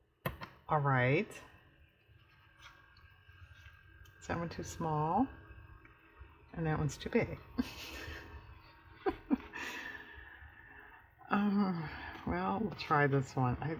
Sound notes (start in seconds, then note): 8.9 laughs